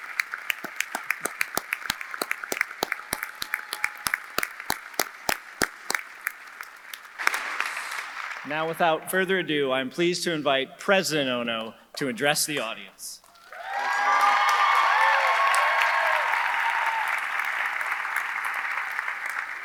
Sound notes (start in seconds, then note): 13.3 audience applauding; 13.3 audience cheering